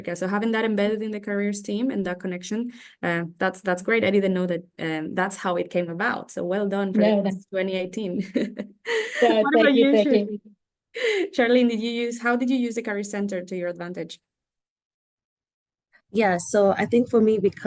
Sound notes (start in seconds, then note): 9.0 chuckling